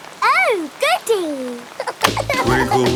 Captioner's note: giggling